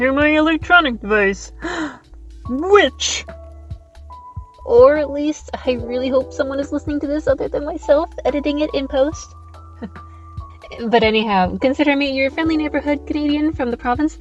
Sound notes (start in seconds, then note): 1.6 gasp